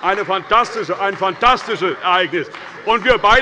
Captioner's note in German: Beifall bei Abgeordneten der CDU